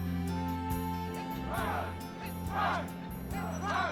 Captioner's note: players chanting